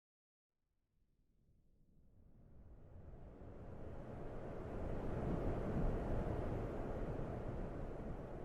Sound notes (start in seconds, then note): 2.6 wind whistling